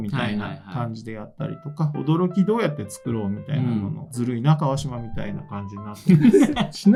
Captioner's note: laughs